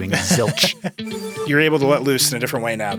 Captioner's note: digital tone shimmers